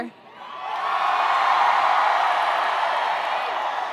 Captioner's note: graduates cheering